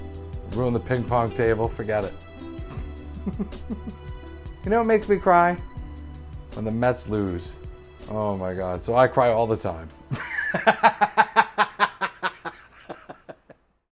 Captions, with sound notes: Ruin the ping pong table. Forget it. [chuckles] You know what makes me cry? When the Mets lose. Oh my god, so I cry all the time. [laughs]